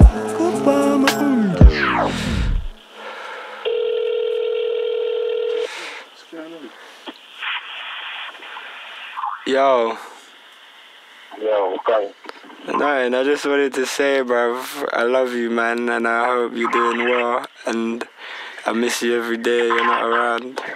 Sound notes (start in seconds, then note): 3.6 phone rings